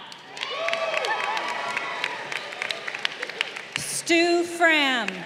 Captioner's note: crowd cheering